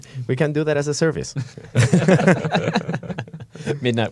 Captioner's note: laughter